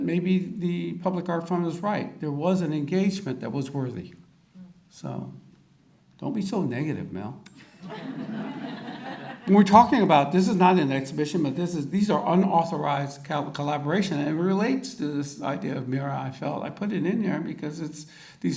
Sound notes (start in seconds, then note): 7.7 audience laughter